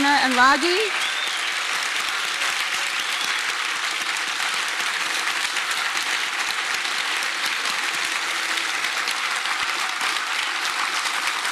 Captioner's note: applause